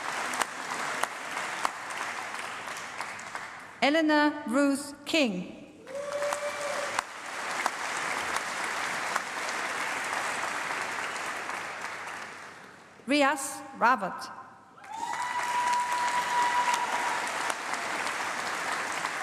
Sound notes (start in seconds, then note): 5.8 applause; 14.8 applause